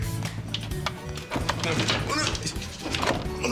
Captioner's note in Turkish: Ikınıyor